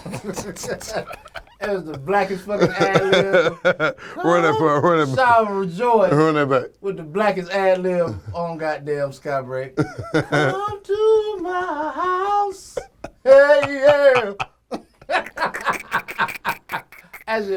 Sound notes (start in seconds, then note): 0.0 laugh; 9.8 laughs; 14.9 laugh